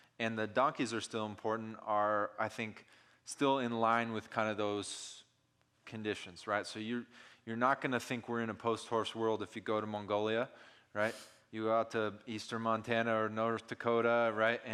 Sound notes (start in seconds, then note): none